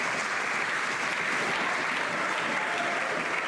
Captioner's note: some Applause